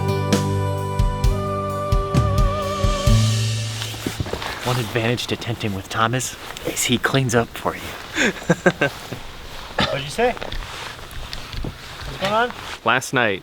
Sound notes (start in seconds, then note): 8.1 laughs